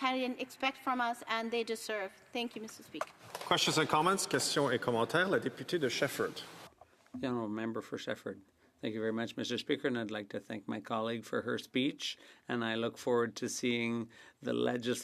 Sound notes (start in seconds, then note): 9.7 speaking French